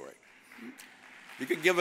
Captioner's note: audience applauding